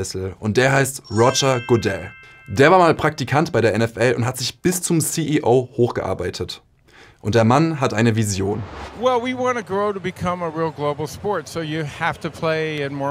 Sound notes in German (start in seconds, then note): 8.7 englisch